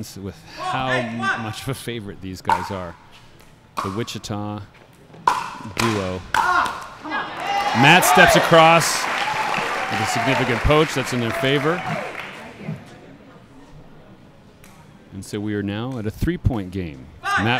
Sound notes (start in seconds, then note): 5.1 ball bouncing; 9.1 audience applauding